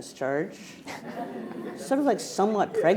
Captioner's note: attendees laughing